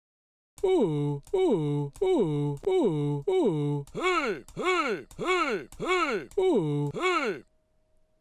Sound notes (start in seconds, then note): 3.8 pc selby memory sound